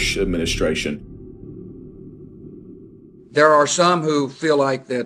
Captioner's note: soundbite of archived recording